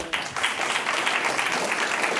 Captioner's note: applause